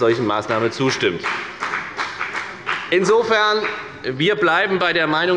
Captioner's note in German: Beifall bei der FDP